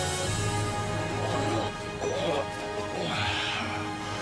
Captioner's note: groaning